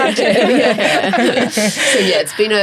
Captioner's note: everyone laughs